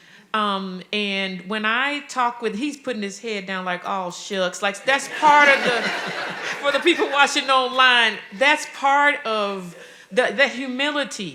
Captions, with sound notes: And when I talk with, he's putting his head down like, "Aw shucks." Like, that's part of the- (audience laughing) For the people watching online, that's part of the humility,